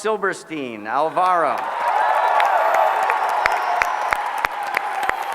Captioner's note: applause